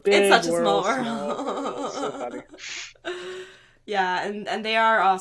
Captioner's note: giggling